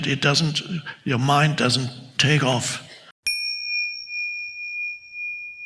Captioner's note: bell dings